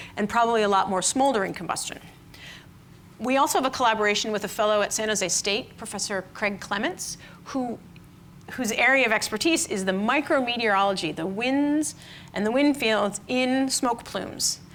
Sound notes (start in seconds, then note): none